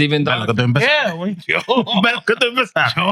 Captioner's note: speaking In Foreign Language